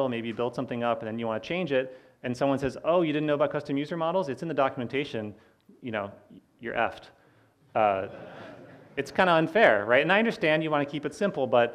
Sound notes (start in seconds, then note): 7.9 audience laughing